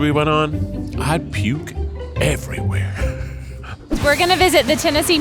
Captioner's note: laughs